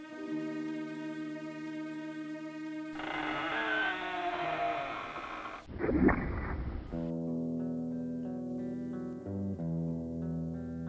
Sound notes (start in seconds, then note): 0.0 daunting music; 2.9 container creaks; 7.1 solemn guitar music